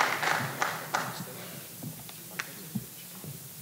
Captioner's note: applause